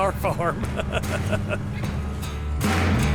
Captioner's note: laughing; upbeat music